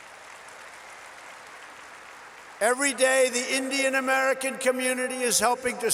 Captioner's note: applause